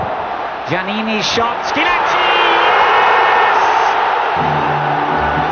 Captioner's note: crowd roaring